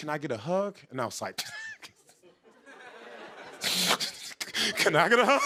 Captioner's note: scoffs, chuckles; voice breaking